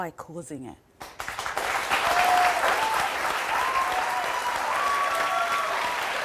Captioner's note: crowd clapping and cheering